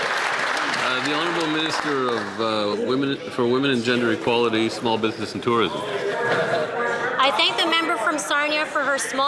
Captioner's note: applause